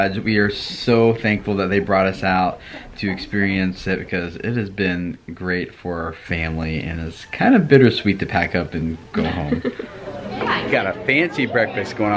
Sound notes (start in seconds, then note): 9.1 laughs